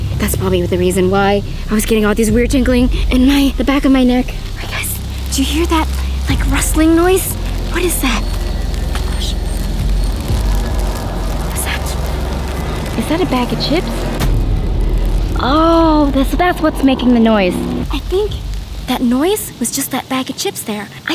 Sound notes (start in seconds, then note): 8.6 rustling; 9.5 intense music